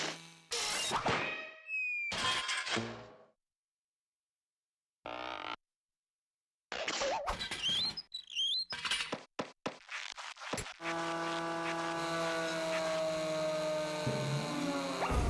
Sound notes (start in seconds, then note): 10.8 motor whirring; 10.9 revving